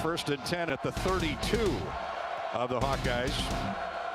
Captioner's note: none